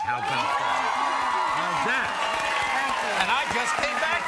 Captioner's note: audience cheering and applauding